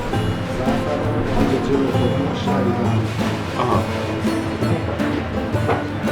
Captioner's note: background chattering